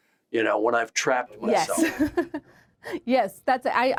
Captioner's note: laughs